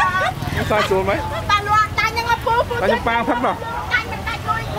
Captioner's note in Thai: หัวเราะ